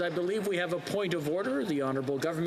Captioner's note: applause